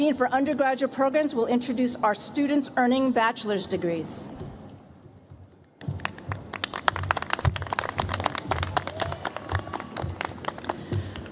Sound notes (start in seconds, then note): 5.8 applause